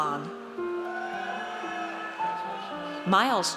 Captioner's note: audience cheers